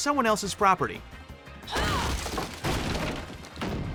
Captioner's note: grunting